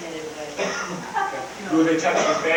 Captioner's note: crowd laughing